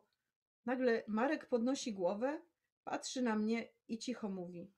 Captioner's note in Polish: none